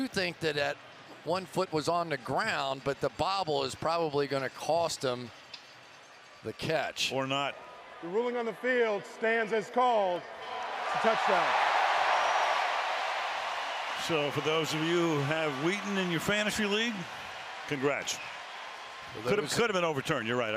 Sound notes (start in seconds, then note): 12.2 cheering